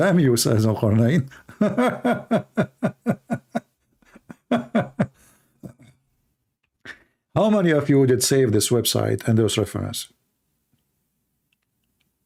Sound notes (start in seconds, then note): 0.9 Ketawa